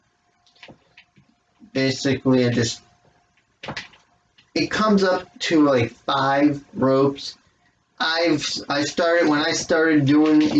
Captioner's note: clacking of the ropes